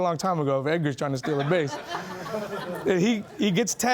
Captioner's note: laughing